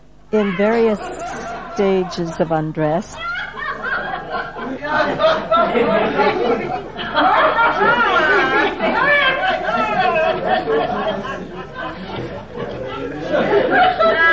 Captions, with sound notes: in various stages of undress. (audience laughing)